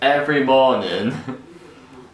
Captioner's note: chuckles